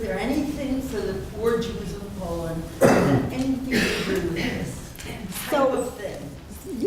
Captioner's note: coughing over question